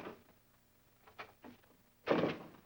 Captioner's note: door slams